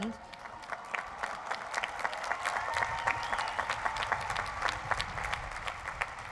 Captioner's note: applause